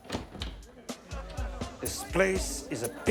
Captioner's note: door opens; people chatter indistinctly